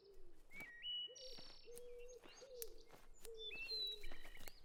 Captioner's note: birds chirping